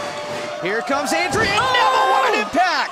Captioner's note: fans chanting